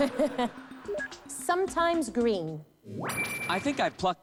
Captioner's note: laughs